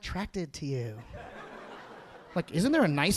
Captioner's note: audience laughing